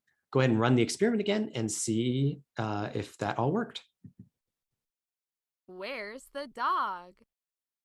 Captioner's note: experiment plays the sound "Where's the dog?"